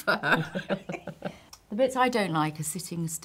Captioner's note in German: lachen